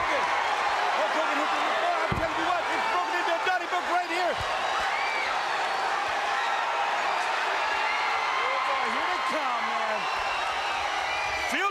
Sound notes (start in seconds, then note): 4.6 crowd cheering